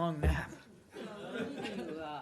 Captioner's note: laughter